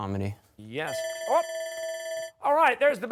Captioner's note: buzzer